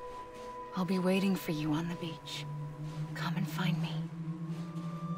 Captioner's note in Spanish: audio del juego